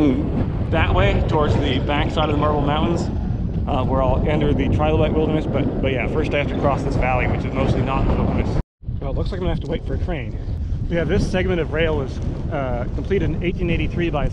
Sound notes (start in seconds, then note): 8.6 wind whooshes